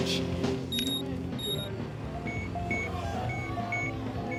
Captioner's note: beeping